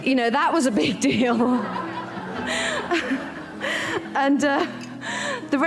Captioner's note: audience laugh